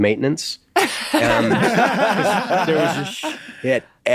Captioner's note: everyone laughs